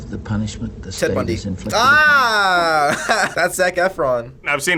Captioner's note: laughs